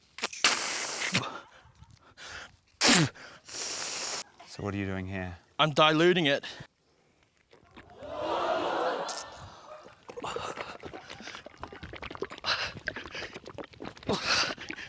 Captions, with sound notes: - (BLOWS) - So, what are you doing here? - I'm diluting it. (AUDIENCE EXCLAIMS) (GRUNTS)